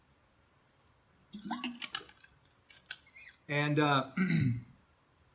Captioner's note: water sloshing